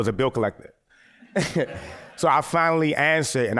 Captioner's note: laughter